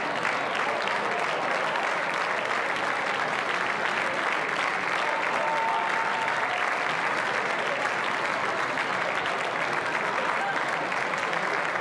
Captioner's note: applause